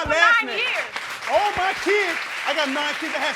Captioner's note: crowd applauds